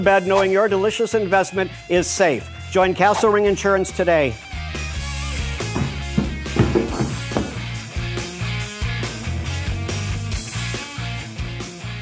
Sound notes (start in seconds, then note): 4.4 energetic music; 5.0 heavy footsteps; 7.8 energetic music